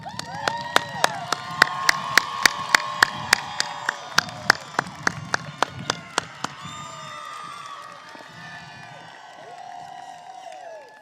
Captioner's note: cheers and applause